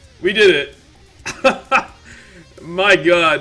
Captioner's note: laugh